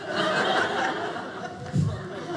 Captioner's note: audience laughing